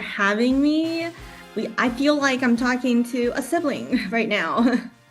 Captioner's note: laughs and triumphant music fades out